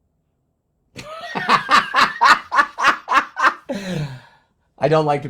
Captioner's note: laughs